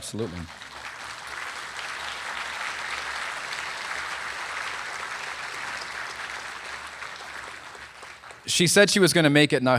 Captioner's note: applause